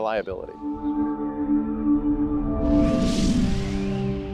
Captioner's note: digital whooshing